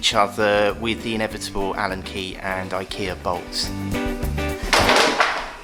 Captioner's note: crash!